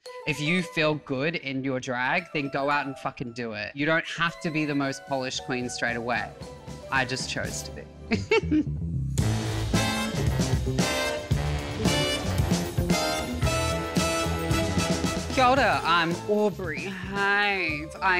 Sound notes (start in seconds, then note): 8.1 chuckles